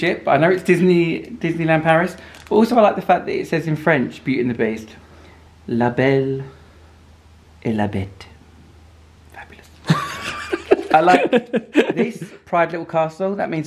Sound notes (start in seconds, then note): 6.0 speaks in French; 9.8 laughs